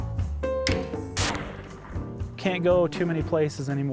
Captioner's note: gun fires